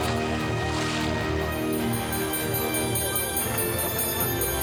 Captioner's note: water splashes; dinner bell rings